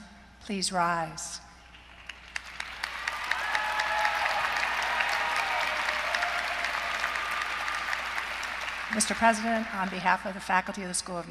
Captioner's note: applause